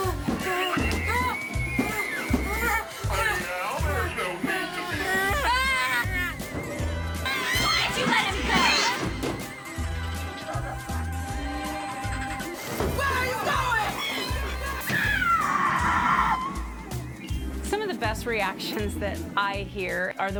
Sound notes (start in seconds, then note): 9.2 jaunty music; 15.0 screaming